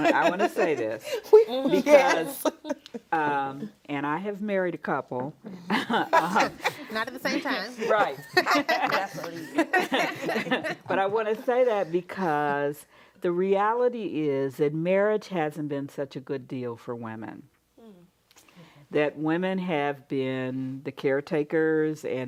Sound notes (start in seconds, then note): 5.6 laughs; 10.0 group laughs